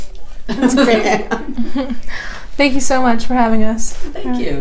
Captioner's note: laughter